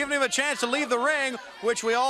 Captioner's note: crowd chatter